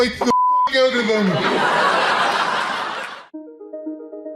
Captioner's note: laughter